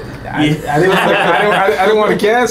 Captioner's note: laughing